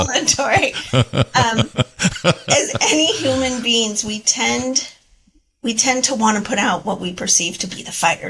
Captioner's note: laugh